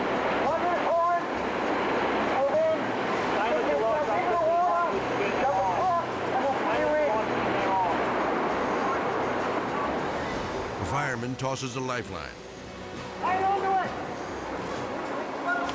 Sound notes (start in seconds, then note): 7.3 dramatic music; 7.3 water rushing; 12.5 dramatic music